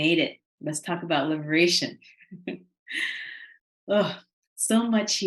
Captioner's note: chuckling